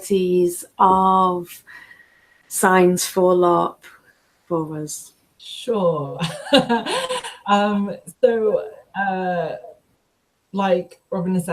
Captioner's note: laughs